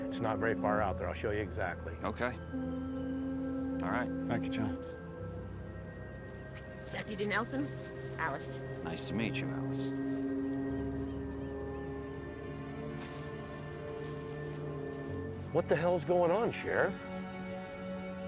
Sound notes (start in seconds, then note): 10.7 boat horn blaring; 10.7 mysterious music